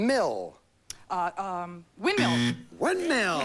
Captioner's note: buzz